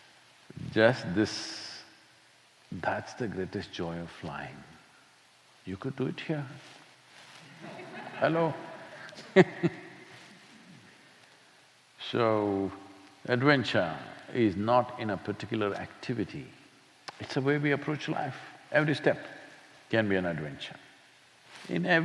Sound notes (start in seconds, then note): 7.4 laughter; 10.6 laughs